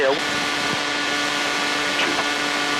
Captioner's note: plane noise